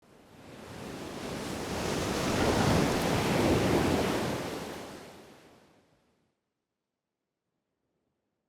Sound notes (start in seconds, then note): 1.6 waves crashing